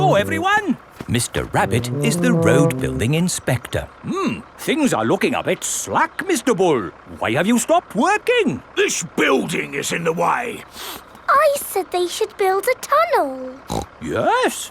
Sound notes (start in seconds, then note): 10.7 sniffs; 13.6 snorts